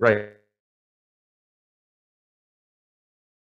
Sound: audio glitch

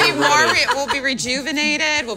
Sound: laughing

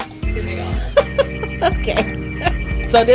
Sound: laughter

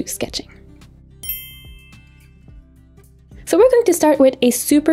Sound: dinging sound effect

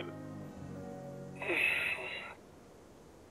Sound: groans

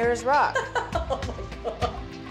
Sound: laughing

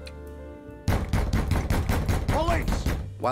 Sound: door knocking

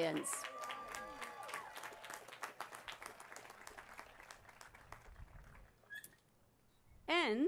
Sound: applause

